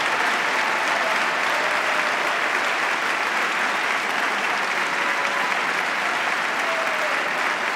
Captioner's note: applause